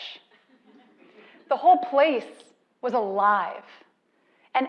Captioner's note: laugh